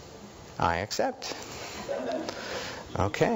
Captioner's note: audience laughing